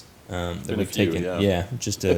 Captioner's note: laughs